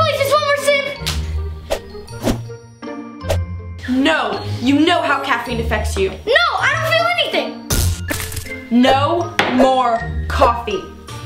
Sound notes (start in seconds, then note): 8.1 electric noises